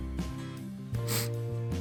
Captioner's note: sniff